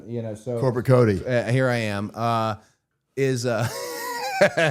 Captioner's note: laughing